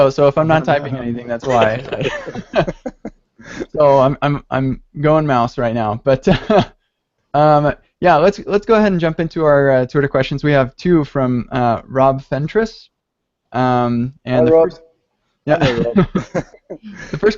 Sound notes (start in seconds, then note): 1.5 laughter; 6.3 laughter; 15.6 laughter